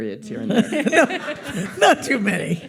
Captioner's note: audience laughs